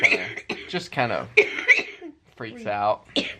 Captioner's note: coughing